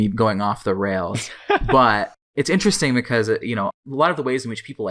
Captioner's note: laughs